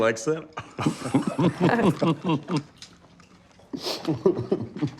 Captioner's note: laughing